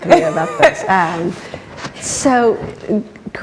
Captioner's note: laughs